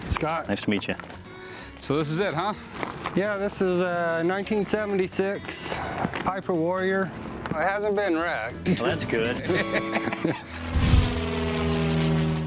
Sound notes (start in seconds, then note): 9.4 laughter